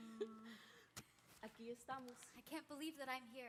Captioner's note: speaks in Spanish